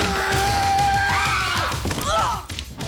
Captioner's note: Graham grunting; Jodie yelling; Jodie groans